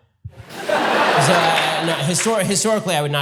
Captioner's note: audience laughter